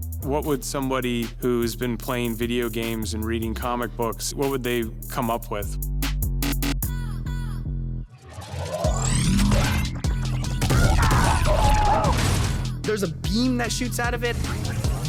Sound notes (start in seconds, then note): 10.7 screams